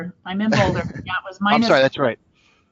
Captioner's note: chuckles